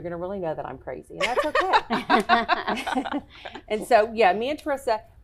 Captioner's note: laughing